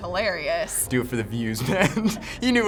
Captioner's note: laughing